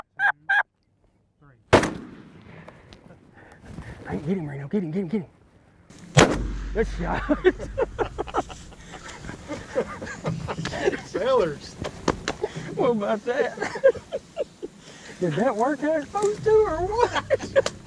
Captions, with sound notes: - One, two, three. [gunshot] - Get him Reno, Get him. [Gunshot] [laughing] - Fellas. - What about that. That was awesome, dude.